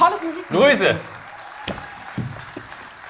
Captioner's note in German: Jubel, Applaus